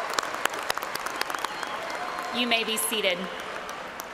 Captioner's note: cheers and applause